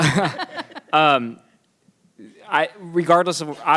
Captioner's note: people laugh